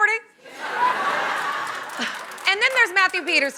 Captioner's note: laughter and applause